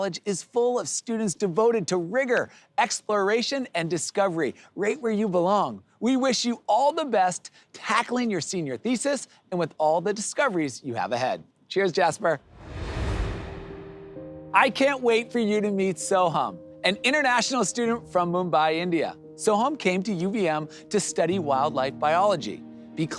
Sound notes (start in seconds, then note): 12.4 air whooshes